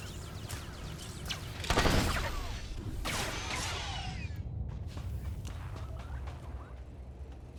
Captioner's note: gun firing